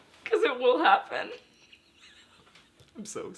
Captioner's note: laughing